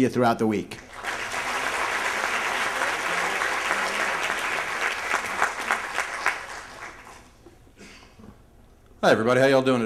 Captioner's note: applause